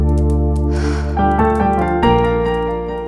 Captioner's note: Sighs